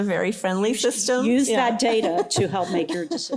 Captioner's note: laughter